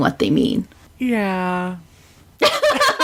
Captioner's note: laughs